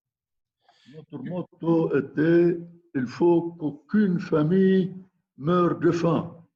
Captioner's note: speaking in foreign language